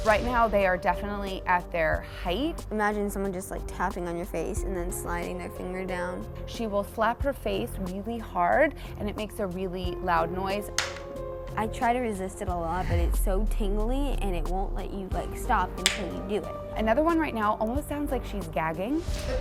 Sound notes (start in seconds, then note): 10.8 smack